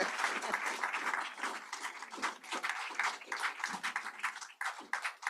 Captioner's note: applause